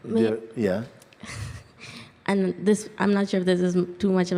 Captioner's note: chuckles